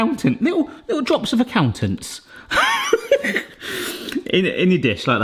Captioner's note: laughing